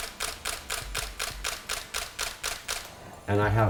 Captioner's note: camera clicking